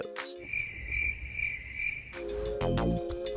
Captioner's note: crickets